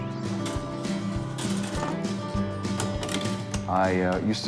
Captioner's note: pinball metallic sounds